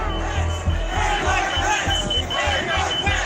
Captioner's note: crowd booing; crowd chanting